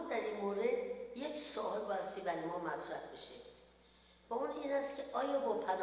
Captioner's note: speaks in foreign language